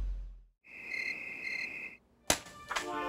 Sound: insects trilling

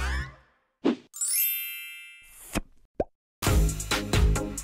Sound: chiming; upbeat music

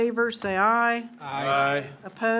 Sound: in Unison

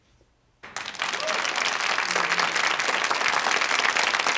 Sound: audience claps

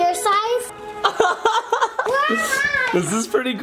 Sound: laughing

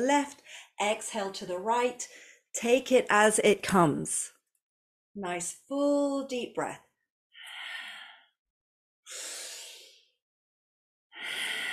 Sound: breathes

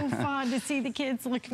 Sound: laughter

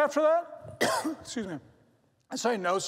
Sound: coughs

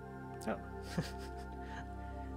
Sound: chuckles

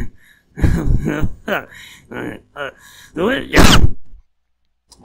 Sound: laughter interrupted by a stoner cough

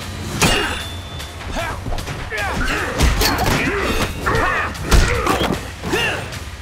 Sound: grunting; grunting

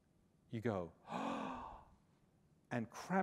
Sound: gasp

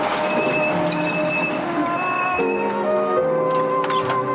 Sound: brakes squealing

